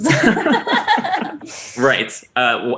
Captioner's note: chuckling